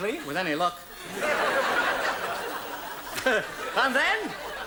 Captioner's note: audience laughs